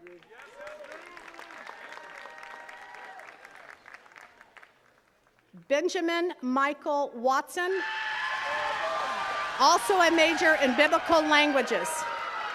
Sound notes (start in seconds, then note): 0.0 attendees cheering and clapping; 7.7 attendees cheering